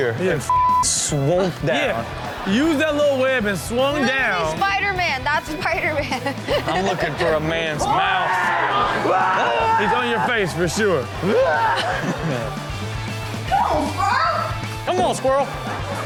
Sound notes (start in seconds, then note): 1.4 audience laughs; 9.0 man screaming in video; 11.1 host and audience laugh; 15.5 audience laughs